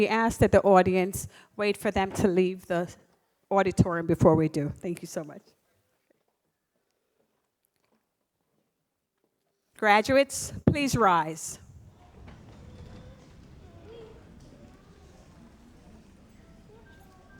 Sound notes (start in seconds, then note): 13.5 audience muttering